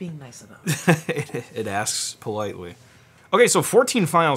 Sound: laughs

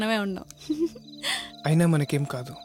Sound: chuckling

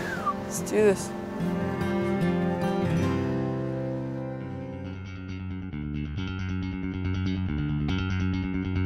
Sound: whistles

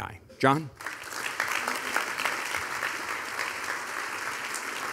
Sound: audience applauding

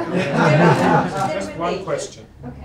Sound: laughter

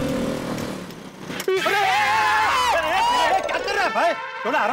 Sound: screaming

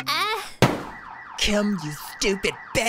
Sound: car alarm screams

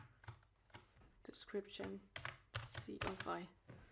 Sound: typing

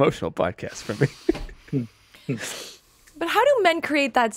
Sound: laughing

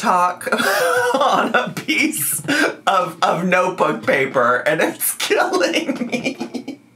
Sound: laughs

